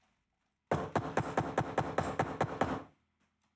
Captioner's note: door knocks